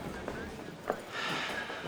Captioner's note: sighs